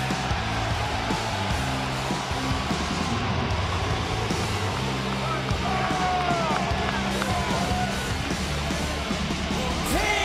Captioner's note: crowd cheers